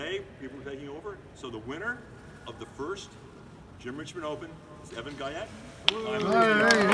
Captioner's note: crowd cheers!